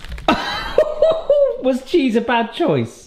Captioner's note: laughing